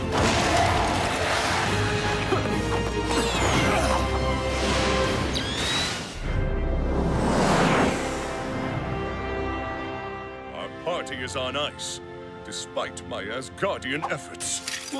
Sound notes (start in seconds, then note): 0.0 smashing; 2.1 grunting